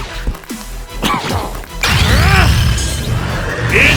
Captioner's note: cough and grunt